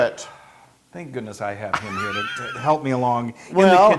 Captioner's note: laugh